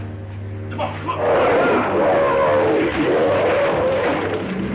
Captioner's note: roaring